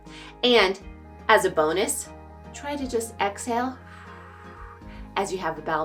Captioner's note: exhales